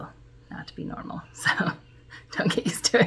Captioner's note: chuckle